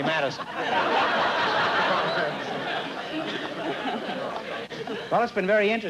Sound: laughter

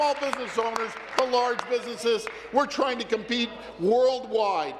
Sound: applause

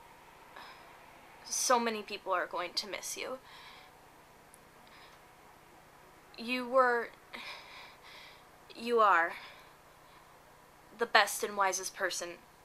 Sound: gasp

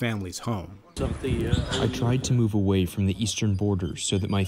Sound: through translator

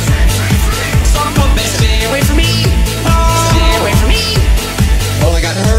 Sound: DanTDM Screaming

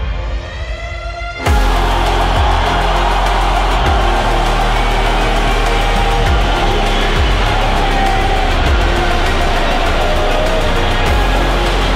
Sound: crowd roaring

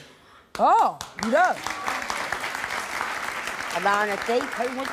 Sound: audience clapping

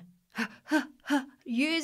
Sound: breathes rapidly

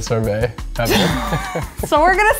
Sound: laughing

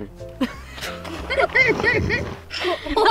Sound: laughing

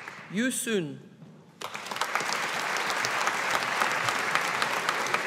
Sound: audience applauding

